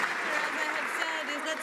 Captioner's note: some Applause